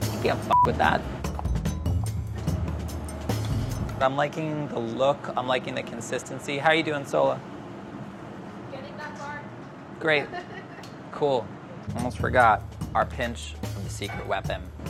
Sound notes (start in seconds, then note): 10.2 laughs